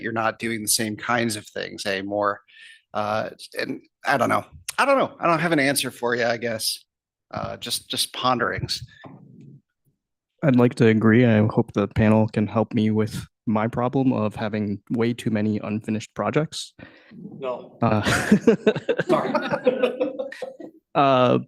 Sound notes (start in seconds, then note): 17.3 laughs; 19.6 laughter